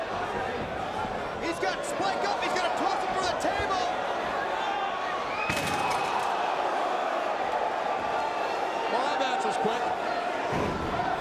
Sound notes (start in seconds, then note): 5.5 crowd vocalizing; 5.5 table crashing